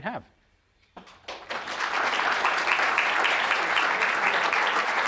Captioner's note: audience applauding